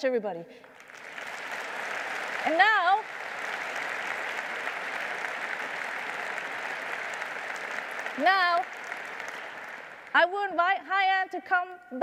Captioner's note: applause